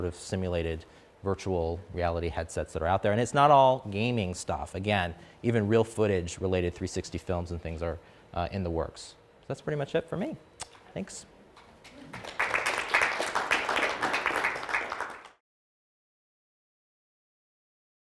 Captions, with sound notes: of simulated, virtual reality headsets that are out there. And it's not all gaming stuff. Again, even real footage-related 360 films and things are in the works. That's pretty much it for me. Thanks [APPLAUSE]